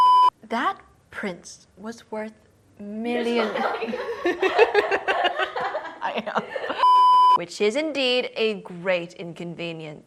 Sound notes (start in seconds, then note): 3.4 laughs; 6.8 beep